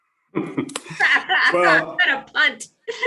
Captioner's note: laughs